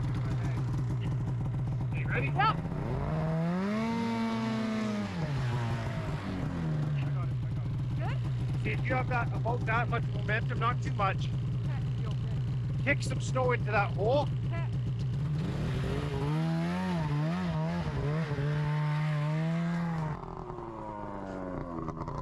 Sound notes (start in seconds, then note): 3.6 engine revving; 16.2 engine revving; 20.0 engine humming